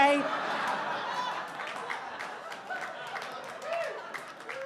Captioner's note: audience applauding